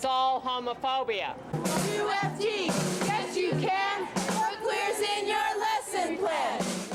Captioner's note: chant